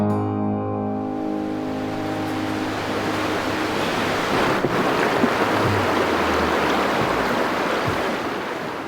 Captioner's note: water splashing